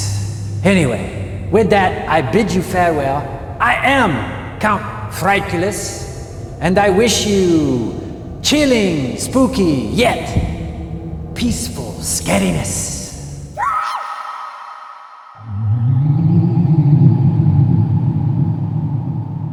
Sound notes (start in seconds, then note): 13.4 scream